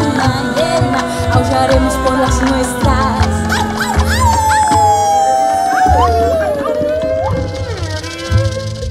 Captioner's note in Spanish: aúllidos